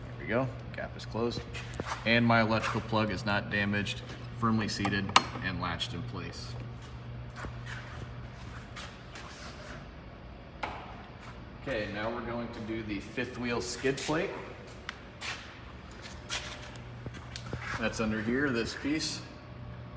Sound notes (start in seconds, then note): none